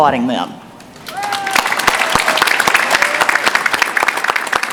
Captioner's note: applause